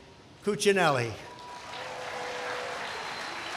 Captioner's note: applause